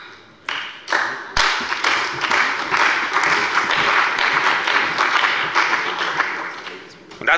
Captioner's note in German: Beifall bei der CDU und dem BÜNDNIS 90/DIE GRÜNEN